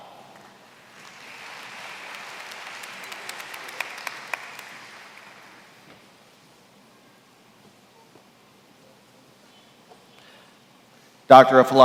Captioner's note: applause